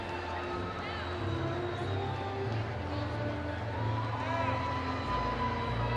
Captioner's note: audience cheering